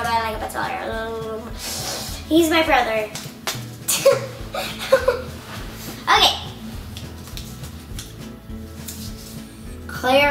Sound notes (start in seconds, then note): 4.0 chuckles; 7.2 calm music